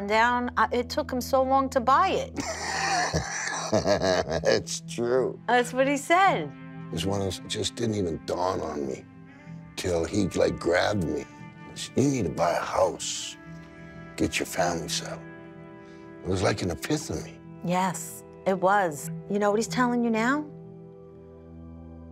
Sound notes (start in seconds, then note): 2.4 laughs